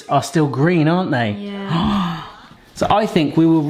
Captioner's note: gasps